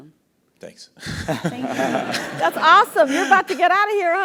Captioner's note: laugh